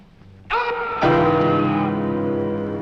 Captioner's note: scream